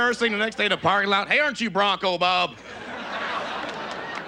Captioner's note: southern accent; audience laughs